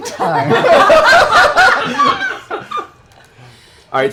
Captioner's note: laughter